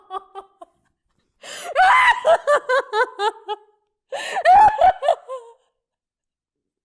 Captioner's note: screaming, sobbing